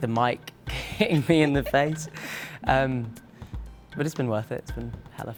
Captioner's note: laughing